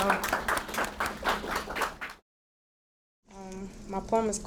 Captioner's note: audience applauds